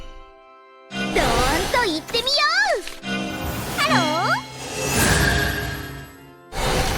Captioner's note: dragon Rearing